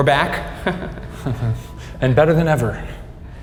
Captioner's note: both chuckle